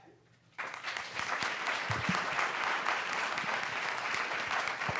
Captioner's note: audience applauds